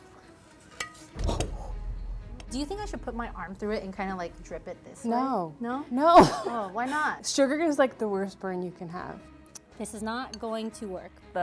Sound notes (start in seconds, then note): 1.1 dramatic music; 6.3 laughs